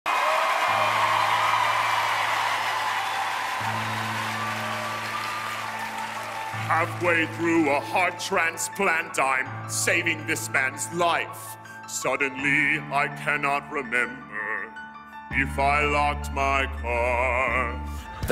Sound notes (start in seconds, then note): 0.0 cheers and applause